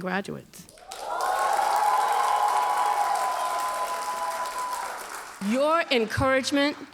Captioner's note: audience cheers and applauds